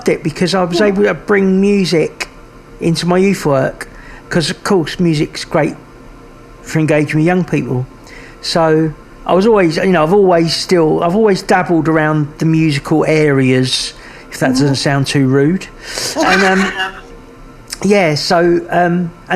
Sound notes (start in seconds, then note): 16.1 laughing